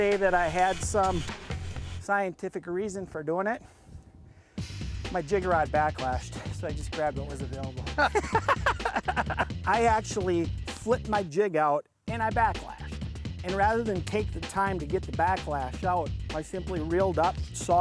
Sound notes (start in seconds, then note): 7.9 laughter